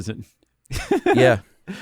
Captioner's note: laughs